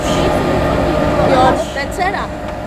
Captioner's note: people chattering